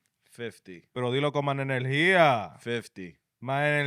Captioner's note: speaking Spanish